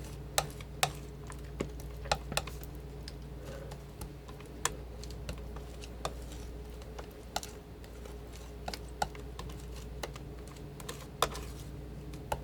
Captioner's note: tapping